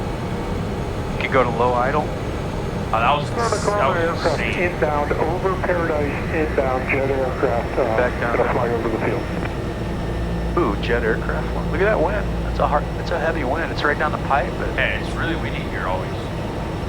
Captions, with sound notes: You can go to low idol. - Oh that was, that was insane. [talking Over radio] - Back down fly over the pillion. - Oh, jet aircraft one - Look at that wind, that's a hard, it's a heavy wind, it's right down the pipe. - Hey, it's really windy here always.